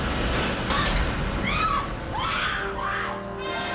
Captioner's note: mrs. lovett screaming